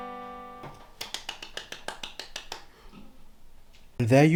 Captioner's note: self claps